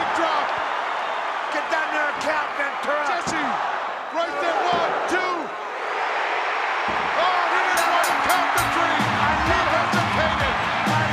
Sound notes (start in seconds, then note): 7.7 ring bell clanging